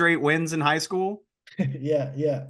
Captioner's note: laughs